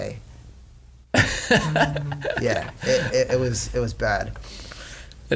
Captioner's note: laughs